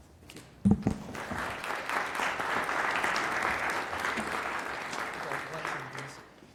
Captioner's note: applause